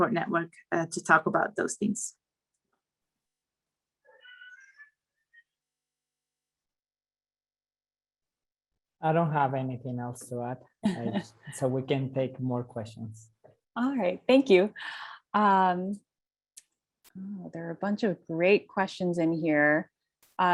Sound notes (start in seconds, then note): 10.9 laugh